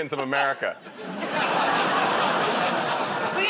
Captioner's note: laughter